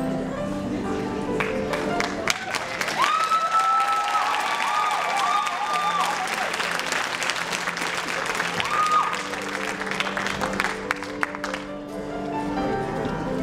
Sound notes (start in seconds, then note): 2.6 applause